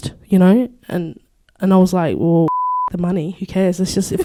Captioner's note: beep